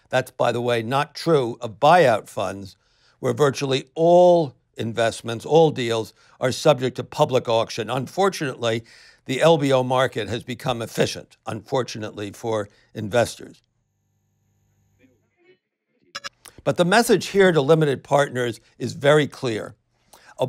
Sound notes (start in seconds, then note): 16.1 digital blip